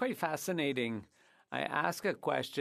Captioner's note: speaking French